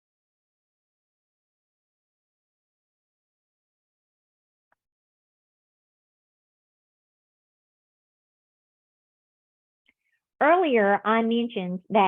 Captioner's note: silence